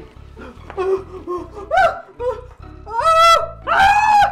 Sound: shrieking

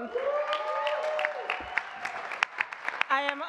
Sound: audience clapping and cheering

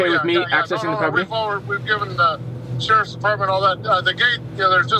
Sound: man Over Phone

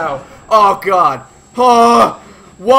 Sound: stressed yell

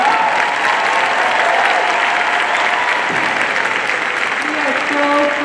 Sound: audience cheering and clapping

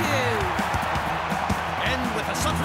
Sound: crowd cheering

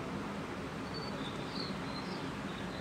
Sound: birds chirp

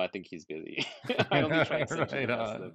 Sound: laughing

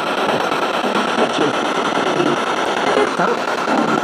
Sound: static signaling continues; disembodied Voice

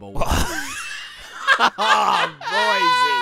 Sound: both laughing

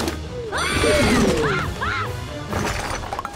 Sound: screaming

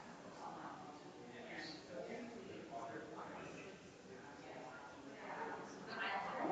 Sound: people chattering distantly continues

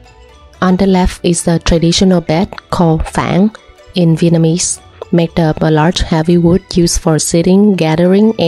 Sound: in Vietnamese

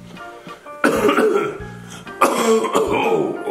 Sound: coughing

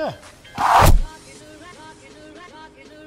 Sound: body thudding

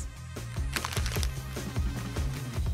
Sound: paper sound

